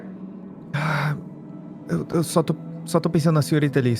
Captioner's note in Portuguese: suspiro